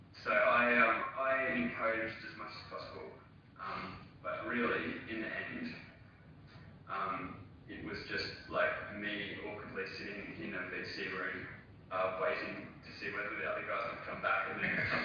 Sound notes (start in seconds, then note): 8.0 audio distorts; 14.5 faint laughter